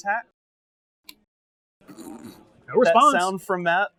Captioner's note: wordless gurgle